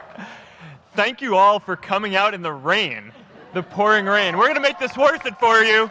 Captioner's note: applause